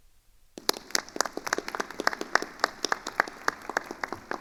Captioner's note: attendees applauding